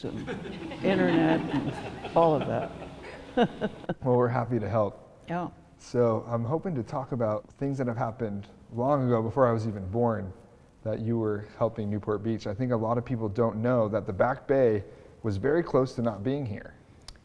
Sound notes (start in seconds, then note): 0.0 audience laughing; 3.4 laughing